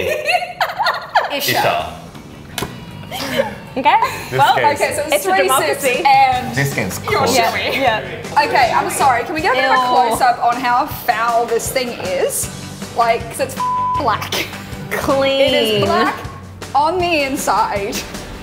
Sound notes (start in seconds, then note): 13.5 beep